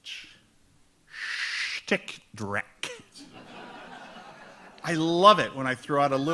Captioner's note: audience laughs